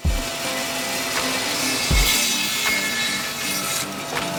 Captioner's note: bandsaw whirring